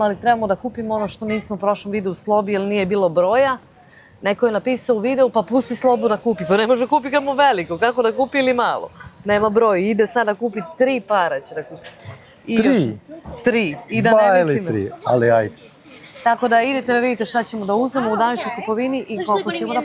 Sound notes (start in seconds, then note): 12.9 coughs